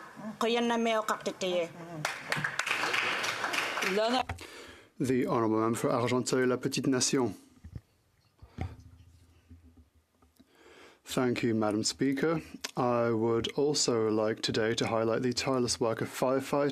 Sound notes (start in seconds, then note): 7.5 speaking Indigenous Language; 9.0 speaking in French